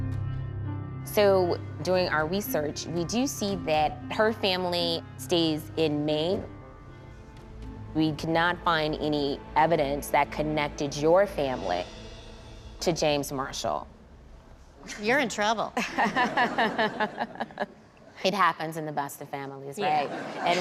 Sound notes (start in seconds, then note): 15.8 laughter